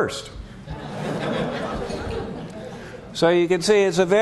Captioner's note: laughter